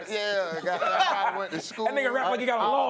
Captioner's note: laughter